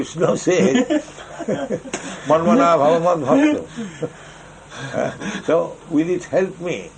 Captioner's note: laughter